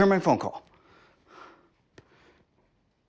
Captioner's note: Tom breathing heavy